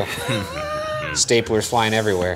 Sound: laughing

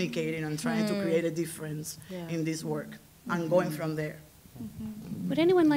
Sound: others agreeing

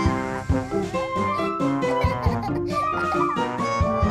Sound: children giggling

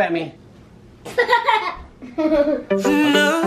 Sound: laughs; upbeat music

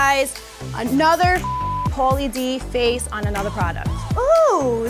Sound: computer bleeps

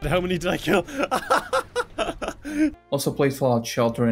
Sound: Call Me Kevin laughter

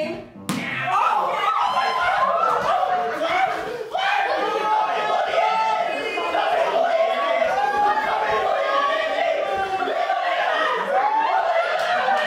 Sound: agonized Flash fanclub noises

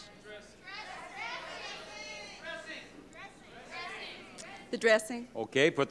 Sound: audience exclaiming

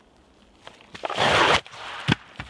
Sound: pfwoosh!; thud

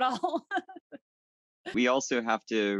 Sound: laughs

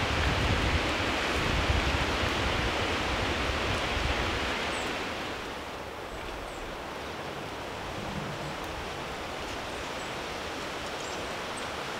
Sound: sounds of nature

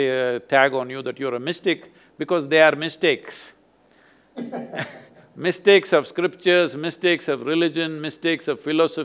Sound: both laugh

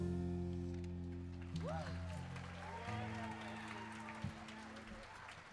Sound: audience applauding

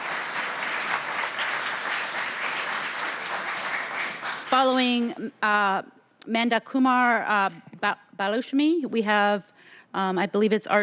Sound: applause

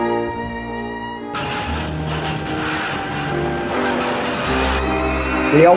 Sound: dishes and kitchen utilities fall

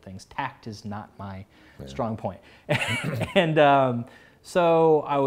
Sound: laughs

